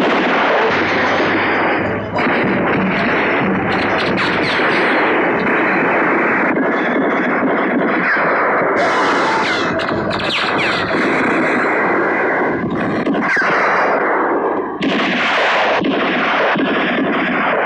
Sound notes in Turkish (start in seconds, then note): 5.4 Silah sesleri